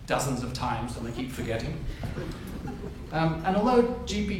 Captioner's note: audience chuckles